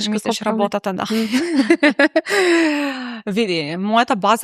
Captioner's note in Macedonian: смеа; тешко дишење